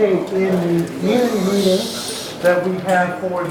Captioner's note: audience shushing